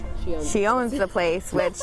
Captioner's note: laughing